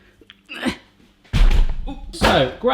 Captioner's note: loud thud